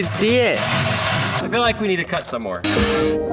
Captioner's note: coins clanging in metal box; soft music playing